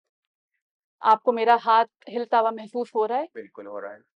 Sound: in Urdu

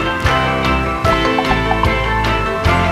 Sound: bouncing sound

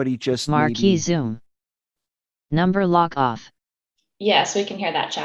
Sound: computer Voice

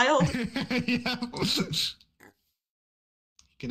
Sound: laughs

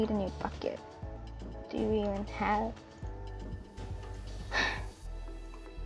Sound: sighs

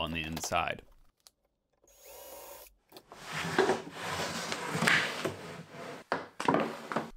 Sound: sliding drawers on table

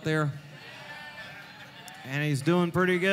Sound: crowd laughing

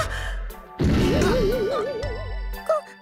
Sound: pained groans

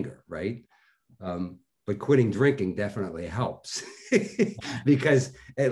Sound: laughing

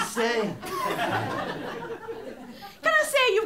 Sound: laughter

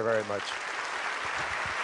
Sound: applause

